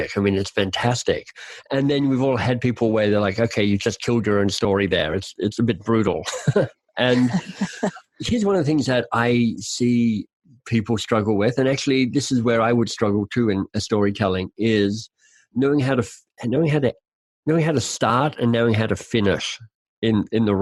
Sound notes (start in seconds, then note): 7.0 laughing; 7.0 laughs